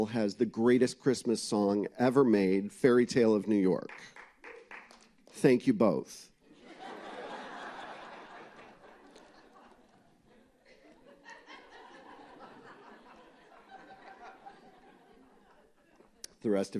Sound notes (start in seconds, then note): 8.7 laughter